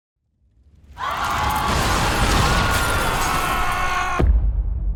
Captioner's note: Romans screaming